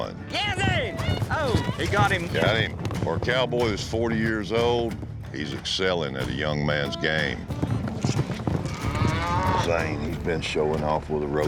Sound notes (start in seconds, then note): 7.1 hoof beats, mooing